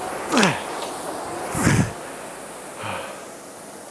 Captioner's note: grunting